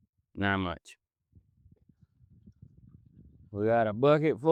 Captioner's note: wind Blowing